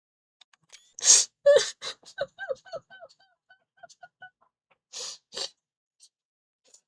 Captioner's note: Steam screenshot sound, laughing and sniffling